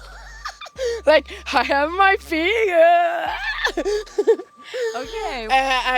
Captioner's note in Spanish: Ríe